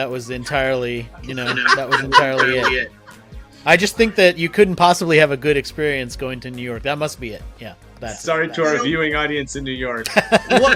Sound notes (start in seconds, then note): 1.2 laughs; 10.1 laughs